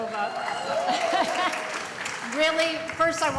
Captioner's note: applause